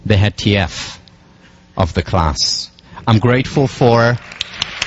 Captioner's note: applause